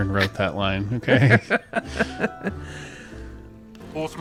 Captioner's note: laughs